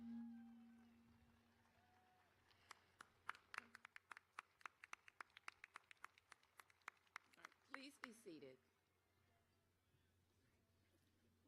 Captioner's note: applause